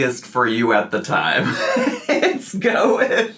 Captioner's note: laughs